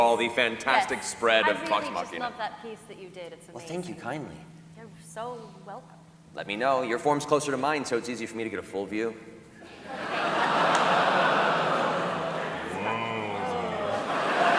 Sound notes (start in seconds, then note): 9.6 laughter